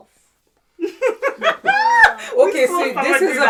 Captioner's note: laughing